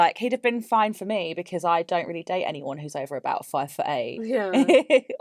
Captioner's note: laughs